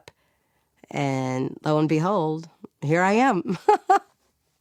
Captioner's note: laughs